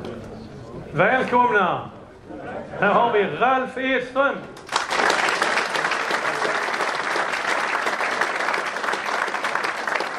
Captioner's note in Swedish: Applåder